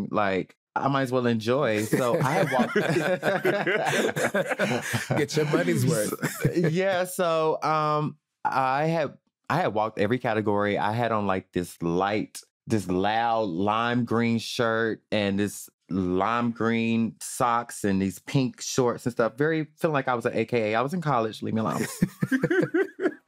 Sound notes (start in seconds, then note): 1.8 all laughing; 21.7 all laughing